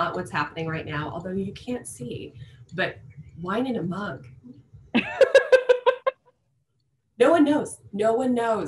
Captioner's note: laughter